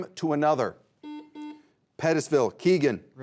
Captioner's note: buzzer beeps